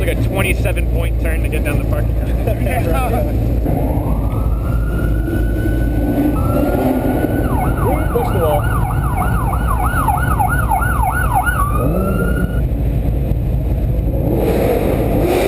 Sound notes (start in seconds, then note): 3.7 sirens; 14.8 even more exhaust noises